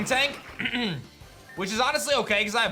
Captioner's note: clears throat